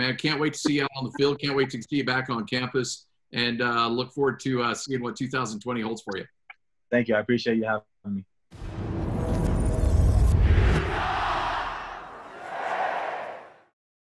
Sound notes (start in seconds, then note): 8.6 crowd chanting